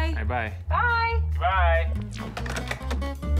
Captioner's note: receivers clatter